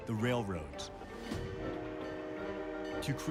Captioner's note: train whistle blows